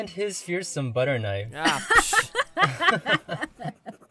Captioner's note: laughter